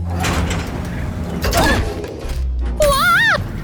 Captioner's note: all grunting